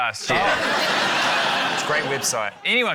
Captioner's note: laughter